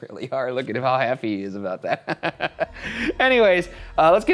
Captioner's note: laughs